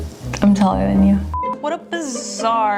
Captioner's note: beep